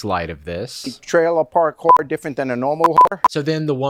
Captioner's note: beep